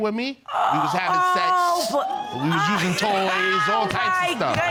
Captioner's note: laughs